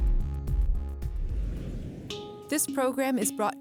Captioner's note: screen whooshes